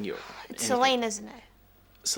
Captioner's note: sighs